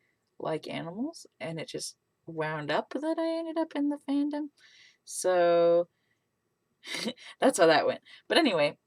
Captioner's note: laughs